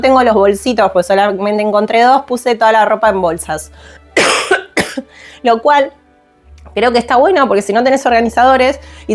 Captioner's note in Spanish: carraspeo